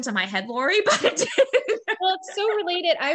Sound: laughing

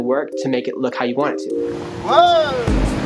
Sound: man yells

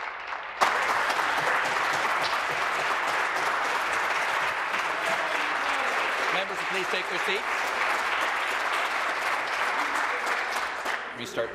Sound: applause

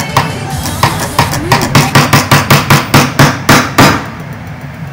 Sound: aggressive mouse smacks

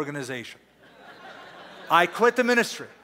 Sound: laughter

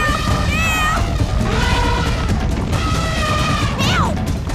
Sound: elephant horns

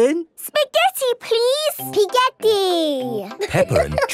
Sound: laughing

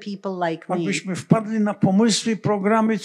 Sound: foreign language

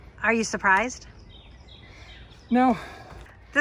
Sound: birds chirping

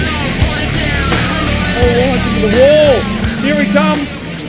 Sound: Nissan approaches and passes

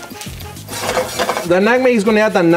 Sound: pan clatters

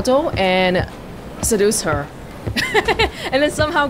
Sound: chuckles

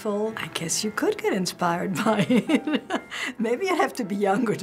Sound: laughing

